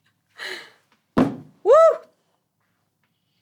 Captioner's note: ball thuds